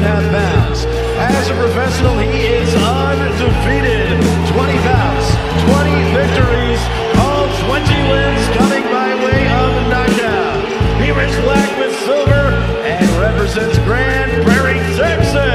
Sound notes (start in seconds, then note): 0.1 applause; 6.1 applause hands